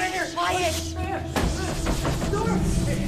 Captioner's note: pounding on door